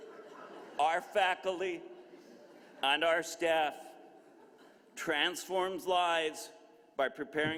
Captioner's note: laughter